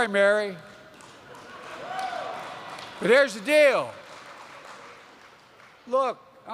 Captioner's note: laughter and applause